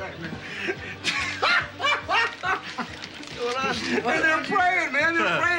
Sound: cackling

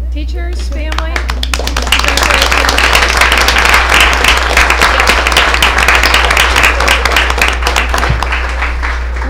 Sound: applause

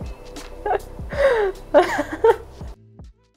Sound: laughs

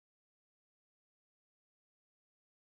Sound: none

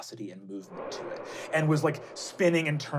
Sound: wooshing

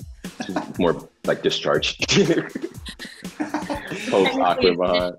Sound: laughs

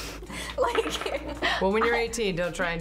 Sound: laughs

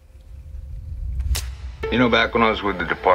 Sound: camera clicks

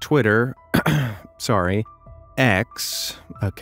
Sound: clears throat

